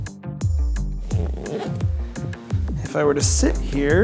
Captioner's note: zipping